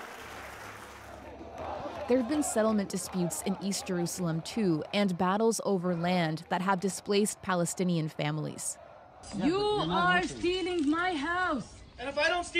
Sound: applause

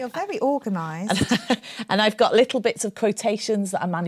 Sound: laughs

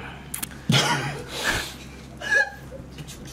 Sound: cough

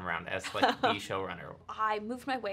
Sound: laughs

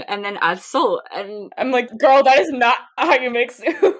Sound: laughing

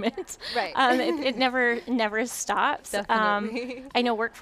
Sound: laughs

